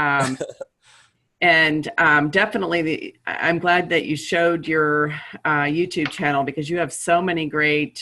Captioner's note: laughter